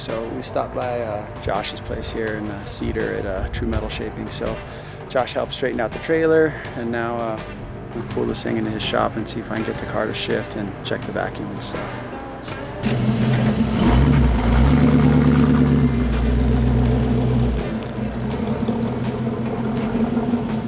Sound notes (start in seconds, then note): 13.1 car starts